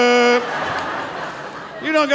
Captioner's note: audience laughing